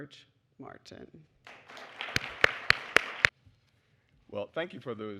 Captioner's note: applause